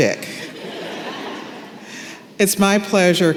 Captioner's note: laughter